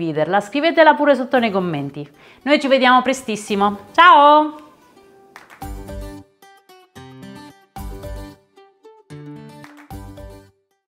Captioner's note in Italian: Applauso